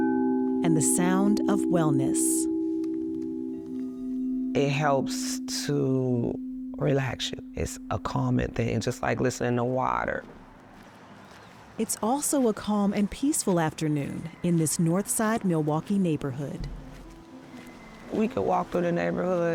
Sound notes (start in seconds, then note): 2.0 bowl hums